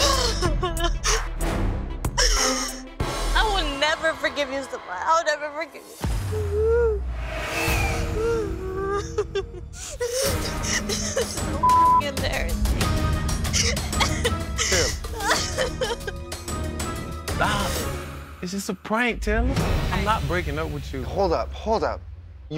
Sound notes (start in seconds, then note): 0.0 sobbing; 7.9 sobbing; 11.6 beeping; 16.2 sobbing